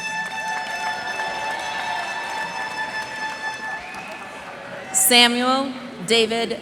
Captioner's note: cheers and applause